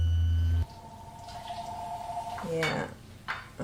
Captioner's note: phone ringing